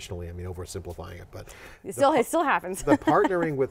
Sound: laughs

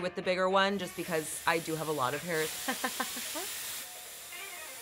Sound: laughs; upbeat music

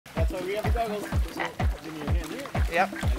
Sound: water splashes

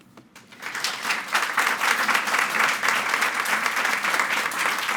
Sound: audience clapping

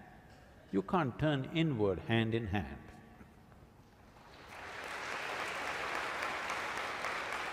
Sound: applause

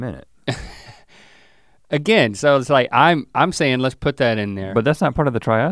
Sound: chuckles

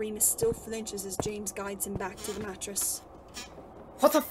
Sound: floorboards creak

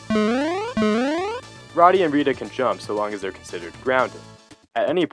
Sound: none

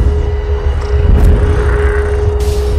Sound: whoosh

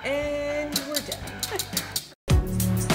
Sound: wheel clicking

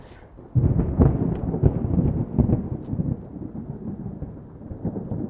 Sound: thunder rumbling

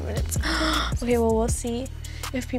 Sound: gasping

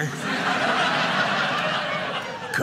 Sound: audience laughing

